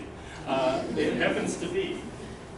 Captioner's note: laughter